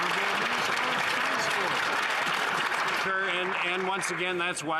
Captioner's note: some Applause